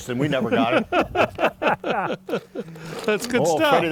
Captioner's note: laughing collectively